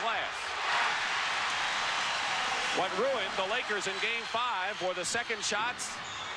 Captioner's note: crowd cheers